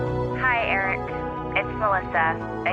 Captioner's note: voicemail plays